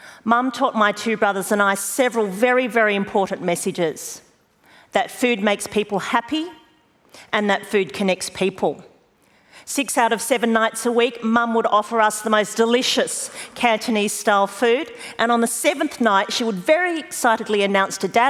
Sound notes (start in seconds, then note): none